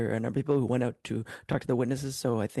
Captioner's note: speaking in French